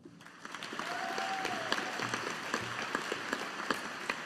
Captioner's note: audience applauding